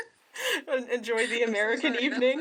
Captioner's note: laughter